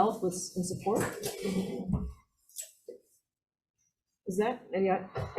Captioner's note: person speaking quietly